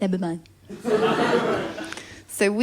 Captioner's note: laughter